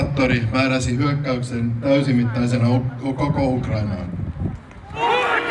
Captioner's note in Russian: раздаются звуки протестов